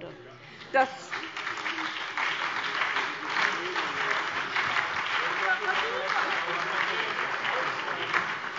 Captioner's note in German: Beifall SPD, BÜNDNIS 90/DIE GRÜNEN und DIE LINKE